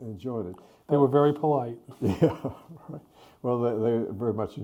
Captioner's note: chuckles